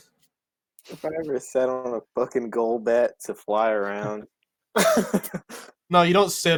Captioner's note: laughs